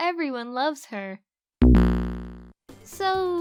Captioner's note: Sonic "Life Lost" Sound